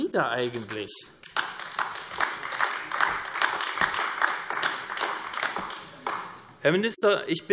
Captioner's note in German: Beifall AfD